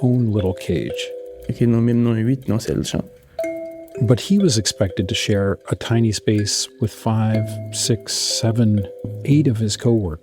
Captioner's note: speaking Creole